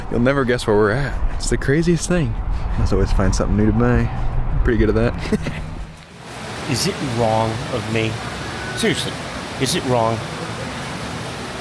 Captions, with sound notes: - You'll never guess where we're at. It's the craziest thing. Let's always find something new to buy. I'm pretty good at that. (laughs) - Is it wrong of me? Seriously, is it wrong?